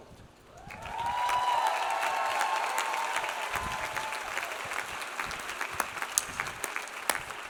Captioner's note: audience applauds; audience cheers